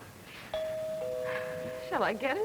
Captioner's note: doorbell